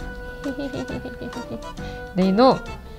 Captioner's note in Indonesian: tertawa